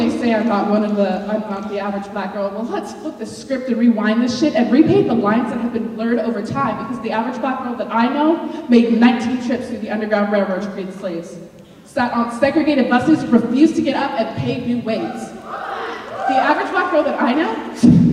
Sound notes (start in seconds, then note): 15.0 audience cheers